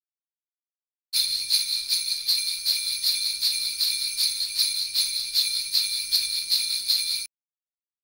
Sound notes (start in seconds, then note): 1.1 sound of Christmas bell